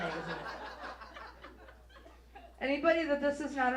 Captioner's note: audience laughs